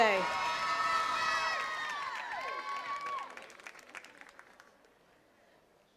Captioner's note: attendees cheering and clapping